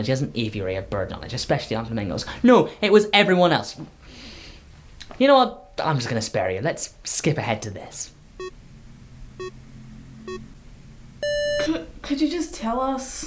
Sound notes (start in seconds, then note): 4.0 deep breath; 9.4 digital beep; 11.2 digital buzzer